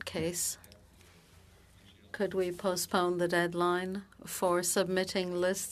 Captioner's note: speaking French